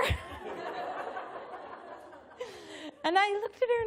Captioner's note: laughter